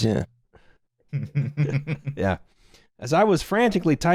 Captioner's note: chuckles